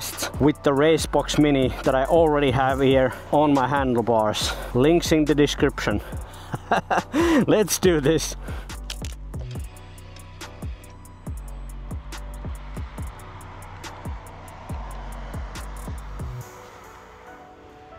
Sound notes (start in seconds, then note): 6.4 laughs